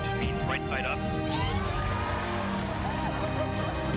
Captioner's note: cheering